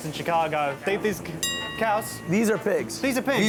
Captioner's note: bell dings